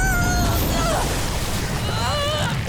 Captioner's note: screaming; splashing; grunting